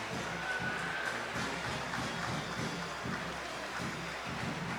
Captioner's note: audience applauding